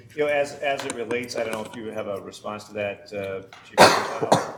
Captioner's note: coughing